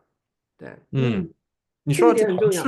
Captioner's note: nonverbal grunt as interjection